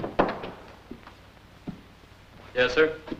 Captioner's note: door shuts; footsteps